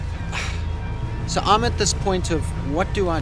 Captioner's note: sighing